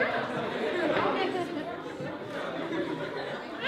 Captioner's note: laughter